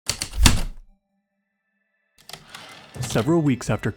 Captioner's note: heavy typewriter keystrokes then return slide